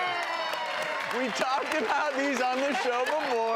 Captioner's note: cheers and applause